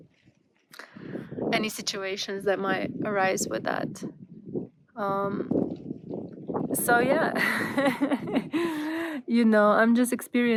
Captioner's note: laughter